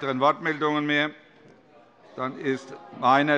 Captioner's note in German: Zurufe von der SPD